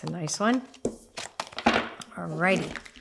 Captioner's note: cards clicking